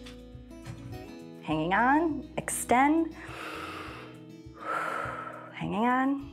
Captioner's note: inhales and exhales